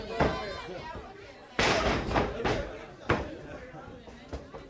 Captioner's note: crowd chatter